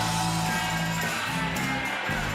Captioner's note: cheering